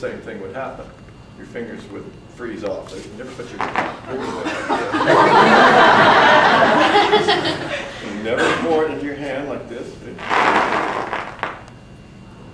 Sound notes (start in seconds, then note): 4.2 audience gasps then laughs again